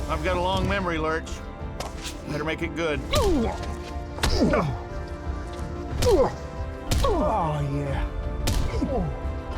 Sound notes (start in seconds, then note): 4.3 groaning; 6.8 punching; 8.0 groaning